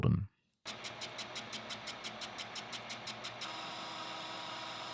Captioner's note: machine whirring